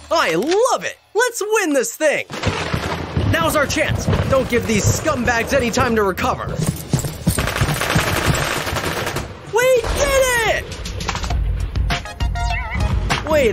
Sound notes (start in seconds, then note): 7.2 gun shots; 11.3 upbeat music